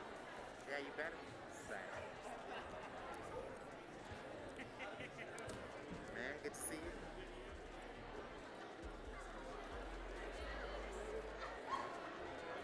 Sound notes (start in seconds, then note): 9.4 crowd talking